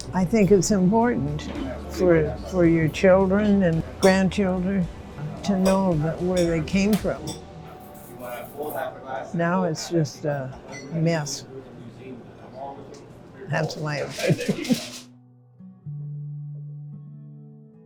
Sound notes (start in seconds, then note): 14.2 laughing